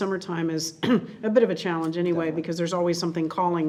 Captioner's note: clears throat